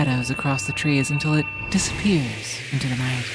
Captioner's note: light whooshing